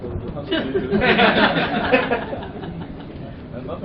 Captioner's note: laughter